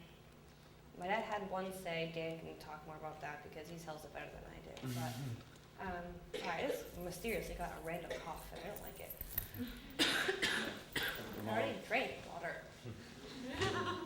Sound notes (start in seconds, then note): 9.5 coughs